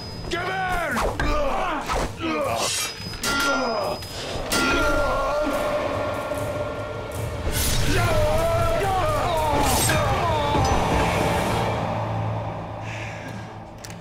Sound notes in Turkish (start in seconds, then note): 0.9 Kılıç sesleri; 1.4 Bağırma sesleri; 7.8 Bağırma sesleri